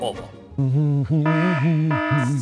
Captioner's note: humming; alarm